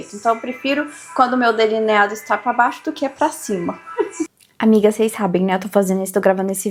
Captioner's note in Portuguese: risadas